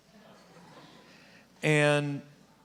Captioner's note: audience laughing